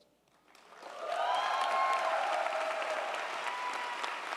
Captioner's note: crowd cheering